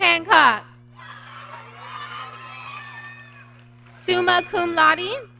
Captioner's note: applause